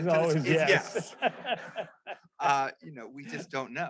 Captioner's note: laughs